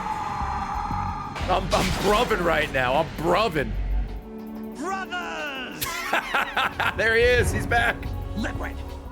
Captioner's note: laughs